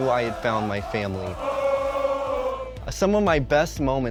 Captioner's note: crowd chanting